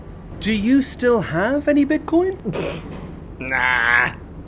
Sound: snorts

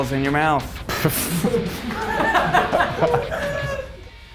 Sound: laughs

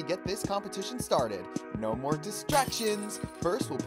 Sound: shatter

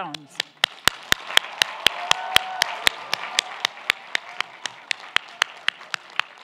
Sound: clapping; audience cheering

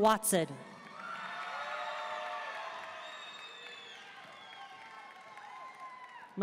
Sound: audience cheering and applauding

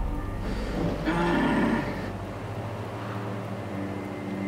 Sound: groaning

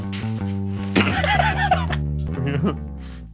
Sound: laughs

